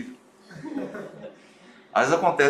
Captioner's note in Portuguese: risos